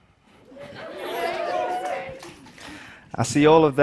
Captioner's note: cheering